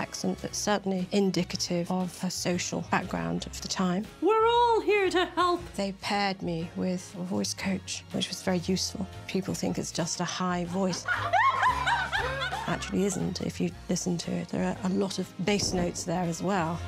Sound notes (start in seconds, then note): 10.7 laughs